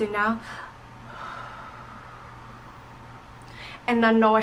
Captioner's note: deep inhale and exhale